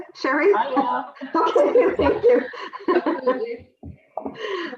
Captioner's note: laughs